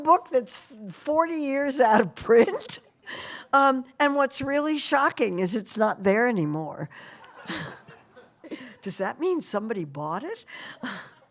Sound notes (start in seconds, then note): 7.1 laughter